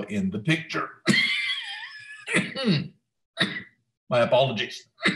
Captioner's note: coughs